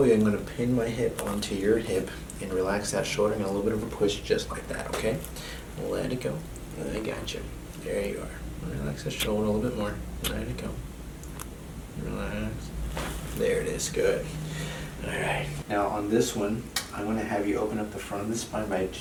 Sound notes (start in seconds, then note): 12.9 back cracking